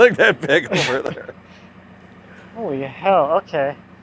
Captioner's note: laughing